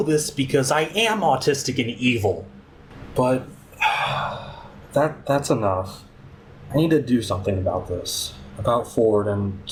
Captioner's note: sigh